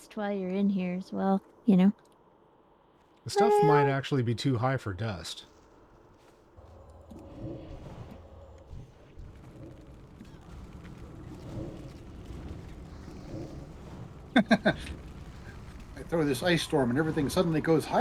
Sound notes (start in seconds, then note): 9.2 laughs